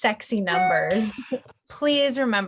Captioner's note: computer beeps